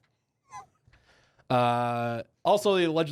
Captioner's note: laughs